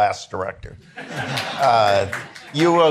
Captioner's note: attendees laughing